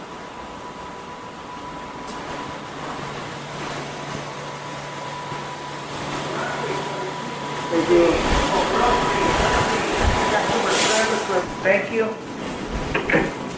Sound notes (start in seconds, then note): 10.4 cart rattling